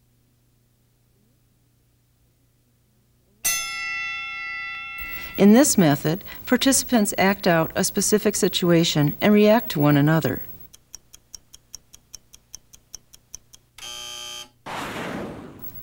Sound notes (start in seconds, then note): 3.4 bell rings; 13.8 buzzer